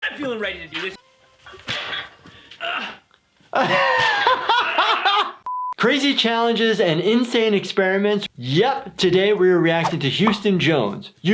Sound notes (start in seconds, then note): 3.5 laughter; 5.4 beep